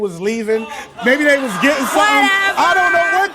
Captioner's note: audience exclaims in disbelief